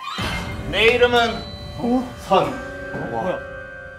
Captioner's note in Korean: 곧은 말투로